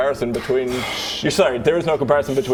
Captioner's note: impressed noises